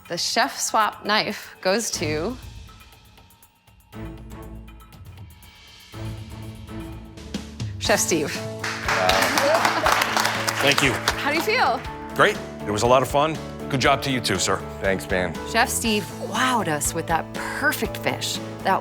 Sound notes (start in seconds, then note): 2.7 dramatic music; 8.4 everyone clapping